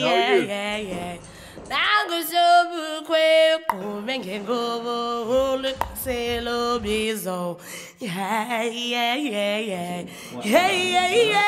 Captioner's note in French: chants Afrikaans